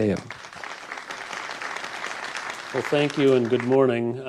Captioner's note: applause